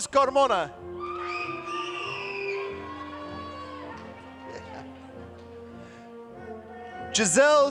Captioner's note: applause